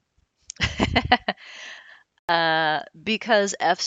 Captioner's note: laughs